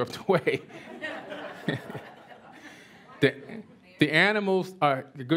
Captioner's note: laughter